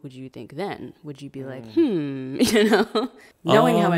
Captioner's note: laughs